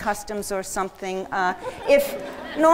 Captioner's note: laughter